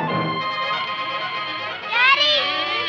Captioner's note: door opening